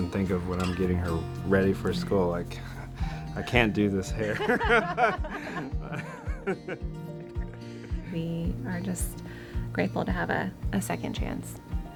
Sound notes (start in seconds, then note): 4.2 laughing; 11.8 light music continues